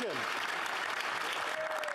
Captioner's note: speaking French